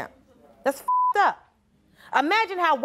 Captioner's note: beep